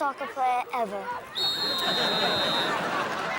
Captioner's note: whistle blows